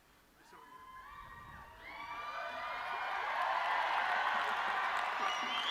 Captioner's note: audience cheering